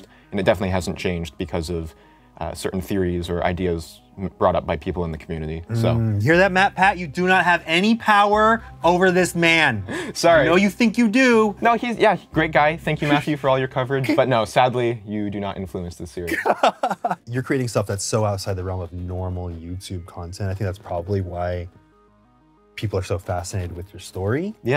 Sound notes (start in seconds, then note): 16.2 laughs